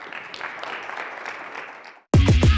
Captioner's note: applause